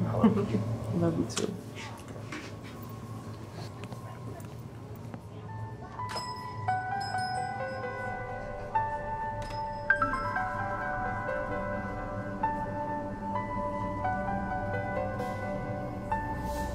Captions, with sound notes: I love you. - Love you too. (bell ringing) (light piano music)